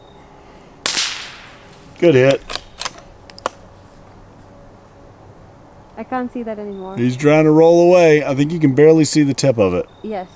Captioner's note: suppressed gunshot